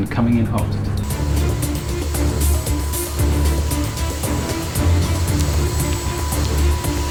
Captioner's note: plane engine roaring; upbeat music